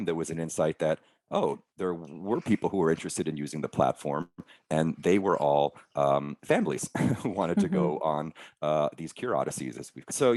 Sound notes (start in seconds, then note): 6.5 chuckling